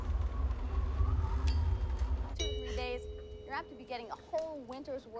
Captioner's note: doorbell rings